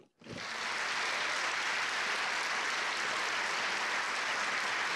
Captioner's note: applause